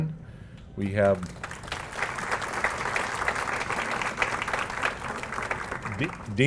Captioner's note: applause